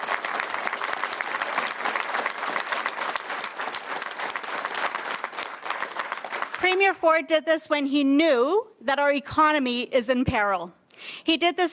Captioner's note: cheers & Applause